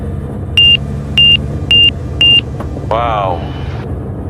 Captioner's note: beeping noise